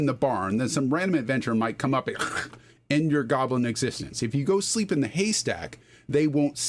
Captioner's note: hhhrrk